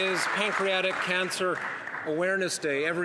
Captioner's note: some Applause